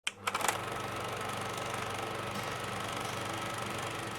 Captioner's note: movie reel clicking